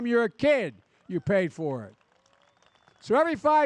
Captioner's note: applause